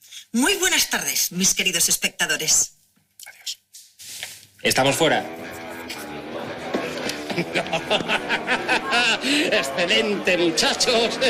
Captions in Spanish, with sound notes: Muy buenas tardes, mis queridos espectadores. Adiós. Estamos fuera. (EL DIRECTOR RÍE) ¡Excelente, muchachos!